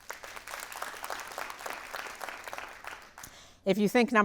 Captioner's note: audience applauding